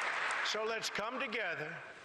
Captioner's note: cheering